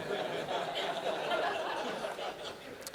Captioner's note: laughter